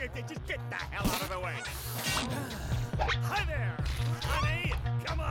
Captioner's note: exhales